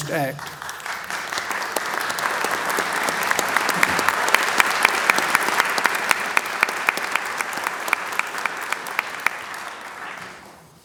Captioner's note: applause